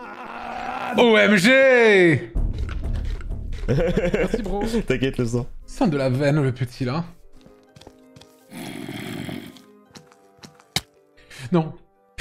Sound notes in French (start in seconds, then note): 3.6 rire; 8.6 le zombie grogne